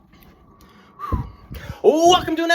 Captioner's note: grim whistle of preparation